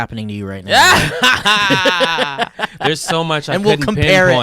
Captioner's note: laughing